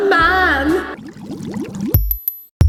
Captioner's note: echoing; water glugs